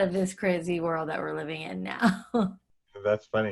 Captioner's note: laughs